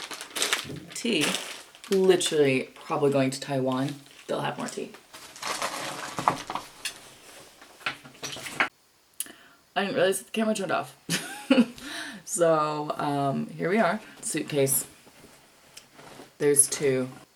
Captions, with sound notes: Tea. Literally, probably going to Taiwan. They'll have more tea. *clicks tongue* I didn't realize that the camera turned off. *laughs* So, um, here we are. Suitcase. There's two.